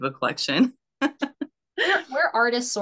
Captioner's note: laughs